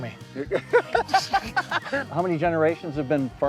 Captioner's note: laughing